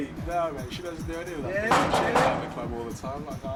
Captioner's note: banging on door